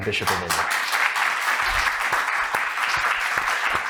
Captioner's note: crowd clapping